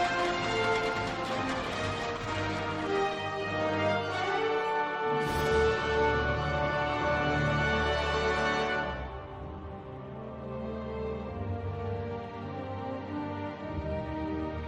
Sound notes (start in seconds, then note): 0.0 cheering & applause; 4.0 crowd noise; 6.0 cheering & applause